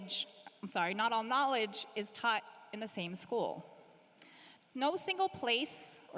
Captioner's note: speaking hawaiian